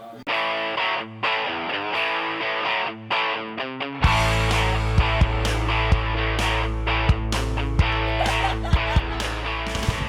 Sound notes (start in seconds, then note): 0.2 electronic music playing; 7.9 laughter; 9.2 electronic music playing